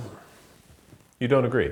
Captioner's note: neck cracks